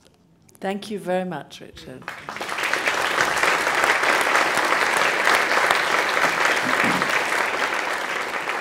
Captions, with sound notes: - Thank you very much Richard. [Applause]